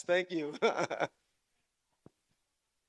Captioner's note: laughs